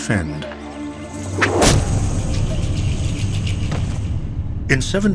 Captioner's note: tomahawk thwacks